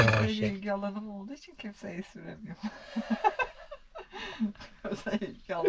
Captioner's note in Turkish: kahkaha